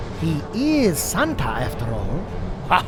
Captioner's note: chuckles